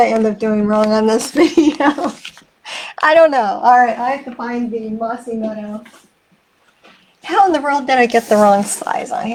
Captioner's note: laughing